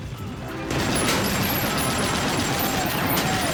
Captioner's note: guns fire